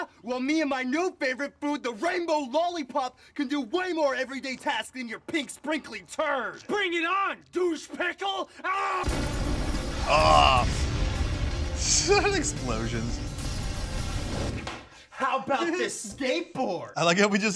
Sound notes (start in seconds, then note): 9.9 explosion rumbles; 9.9 intense music